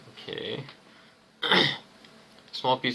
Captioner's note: intense cough